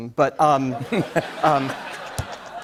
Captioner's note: laughter